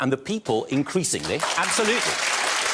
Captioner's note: audience applauding